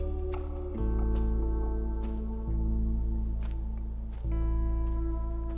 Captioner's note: crickets chirping